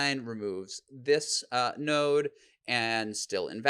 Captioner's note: none